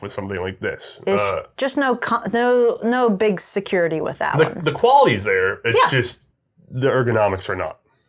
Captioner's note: stammers